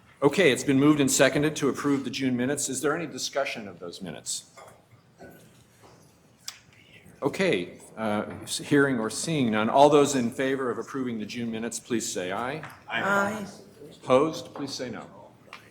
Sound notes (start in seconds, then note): 12.8 multiple voices